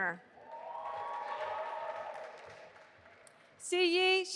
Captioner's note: audience applauding